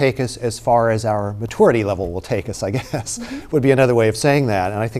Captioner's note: laughing